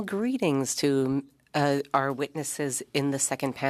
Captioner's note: speaking French